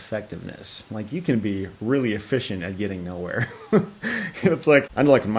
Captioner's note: laughs